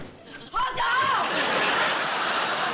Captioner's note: yells